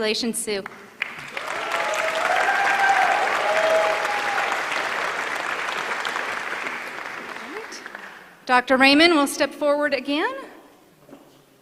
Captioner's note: applause